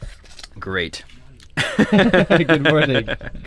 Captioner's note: laughs